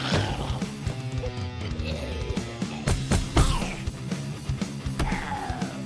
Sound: zombies growling; heavy metal music

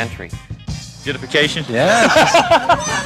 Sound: laughs

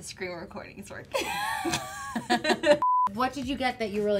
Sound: both laughing

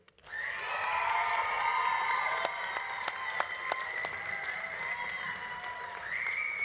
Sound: audience applauding; audience cheering

